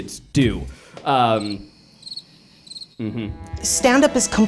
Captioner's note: crickets chirp